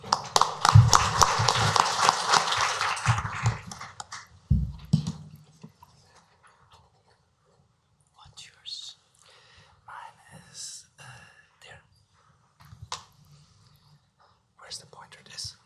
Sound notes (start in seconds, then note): 0.0 applause; 9.0 whispering